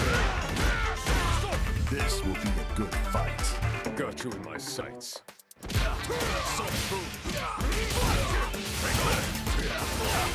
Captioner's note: fighting noises